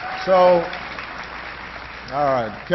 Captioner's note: applause